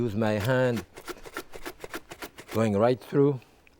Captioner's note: mandoline slicing